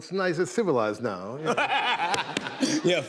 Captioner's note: laughter